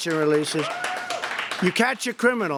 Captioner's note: applause